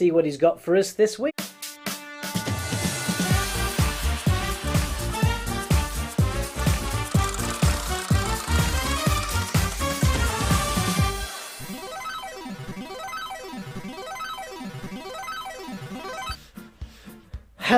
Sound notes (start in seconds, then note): 1.8 upbeat music; 11.7 arcade game dings